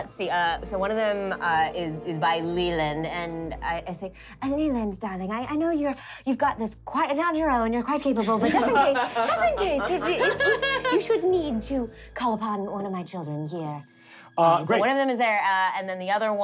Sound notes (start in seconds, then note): 8.3 laughing